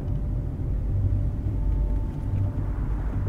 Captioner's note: filmstrip audio fades